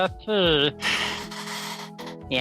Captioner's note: sighs